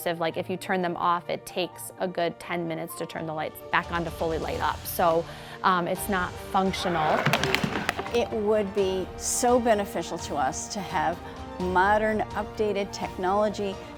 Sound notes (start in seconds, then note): 6.8 floor hockey sticks crash